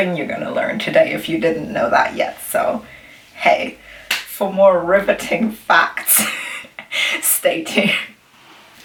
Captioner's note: wheezes